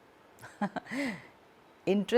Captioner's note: chuckles